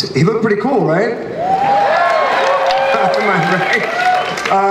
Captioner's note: audience cheers and applauds